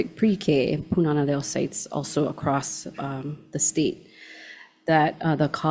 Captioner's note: Hawaiian language spoken